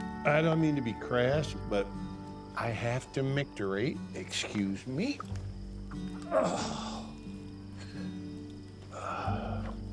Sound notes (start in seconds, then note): 6.3 groans